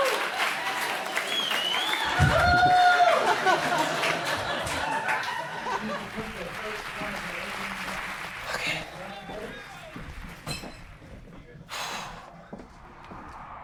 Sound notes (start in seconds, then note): 0.0 applause; 0.2 laughter; 11.4 sighs